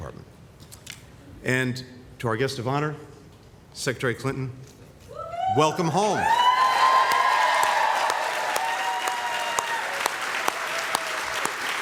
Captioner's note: applause